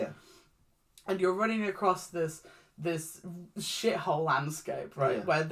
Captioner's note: none